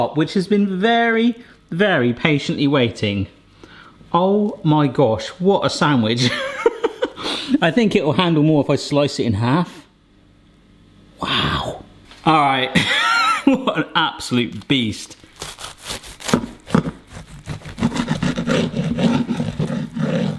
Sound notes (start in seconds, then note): 12.8 light laughter; 16.8 crisp cutting